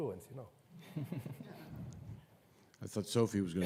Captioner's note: everyone chuckles